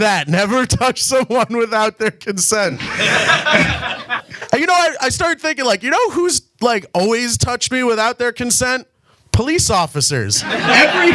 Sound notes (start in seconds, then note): 2.7 audience laughs; 2.7 laughs; 10.4 audience laughs and claps